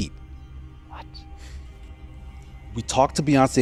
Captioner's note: whispering